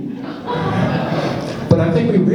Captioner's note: laughs